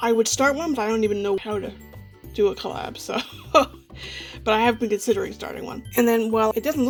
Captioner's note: laughs